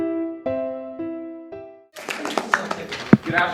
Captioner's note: applause ends